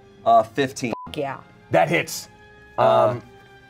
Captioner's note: beep